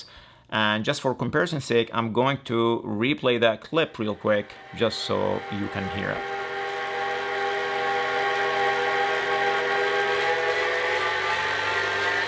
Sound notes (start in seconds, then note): 6.5 trainer whirring loudly